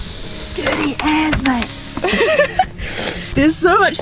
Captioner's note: laughs